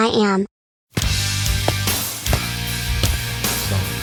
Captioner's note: footsteps